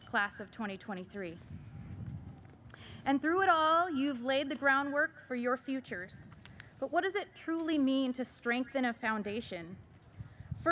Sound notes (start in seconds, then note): none